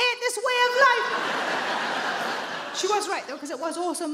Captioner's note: audience laughing